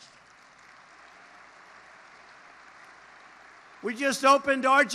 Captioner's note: applause